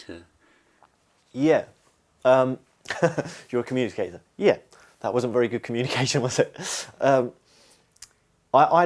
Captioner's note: laughs